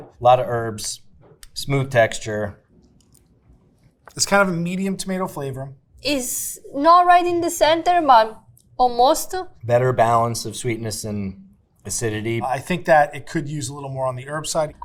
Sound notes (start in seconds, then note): none